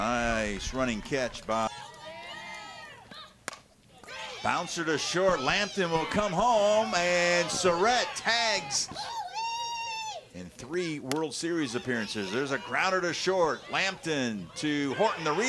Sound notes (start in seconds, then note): 3.4 bat hits ball